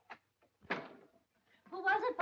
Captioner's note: door closes